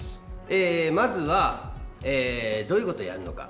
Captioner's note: speaking japanese